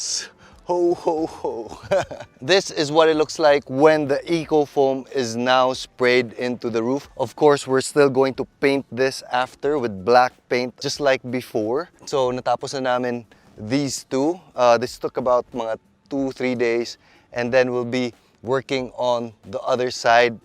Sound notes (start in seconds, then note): 0.7 chuckles